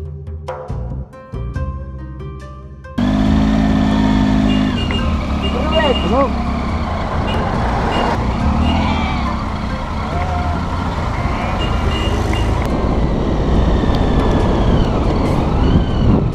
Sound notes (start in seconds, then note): 3.0 local noises, sheep and car and engine nosies